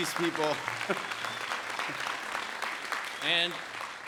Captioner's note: audience applauds